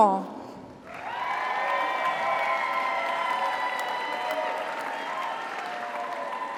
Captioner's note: audience applauds; audience cheers